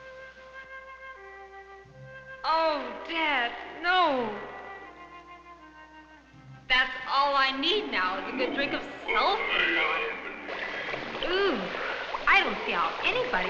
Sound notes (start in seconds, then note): 0.1 gentle instrumental music; 10.7 liquid bubbling; 11.5 groaning